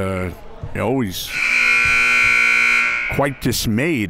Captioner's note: buzzer